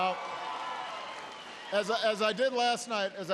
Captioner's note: applause